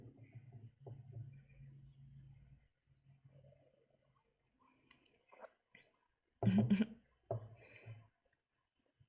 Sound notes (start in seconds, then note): 6.4 chuckles